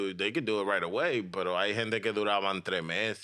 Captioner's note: speaking In Foreign Language